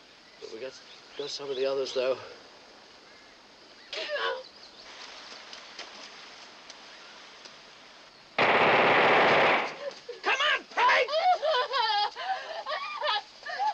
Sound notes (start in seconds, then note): 4.0 peg sobs; 10.7 sobbing